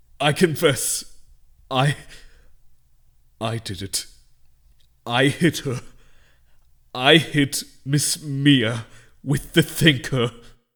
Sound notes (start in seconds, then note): none